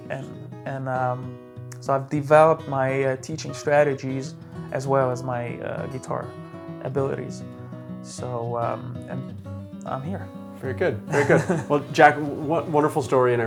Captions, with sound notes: and so I've developed my teaching strategies, as well as my guitar abilities, and I'm here. (chuckles) - Very good, very good. Well, Jack, wonderful story,